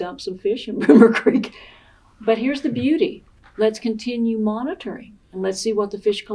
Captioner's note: laughter